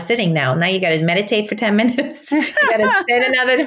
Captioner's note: laughs